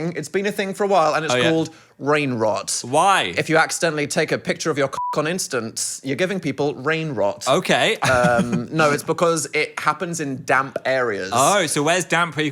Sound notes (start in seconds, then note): 4.9 beep; 8.0 laughs